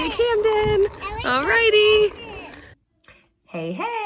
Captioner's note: kid talking